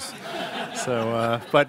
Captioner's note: laughing